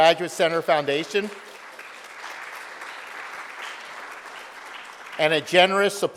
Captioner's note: audience applauding